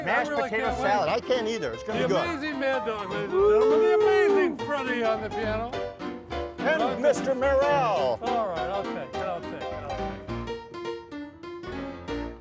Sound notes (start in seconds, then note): 3.2 cheers; 8.4 piano music continues